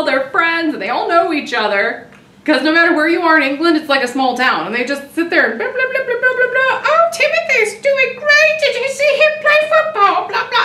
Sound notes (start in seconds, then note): 4.6 making talking sounds